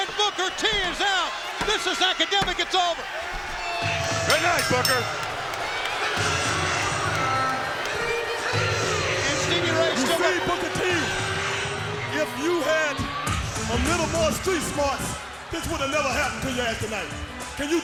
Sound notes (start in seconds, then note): 4.1 bell rings